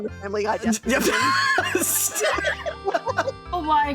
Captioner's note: all Laughing; wheeze